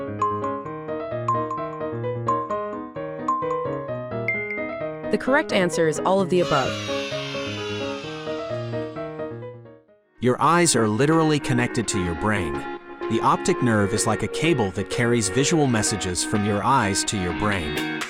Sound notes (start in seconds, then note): 1.2 intriguing music; 6.4 children cheering; 6.8 intriguing music